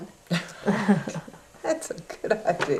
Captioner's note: laughter